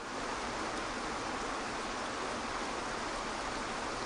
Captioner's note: water flowing